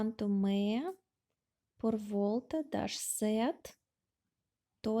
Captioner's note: speaking Portuguese!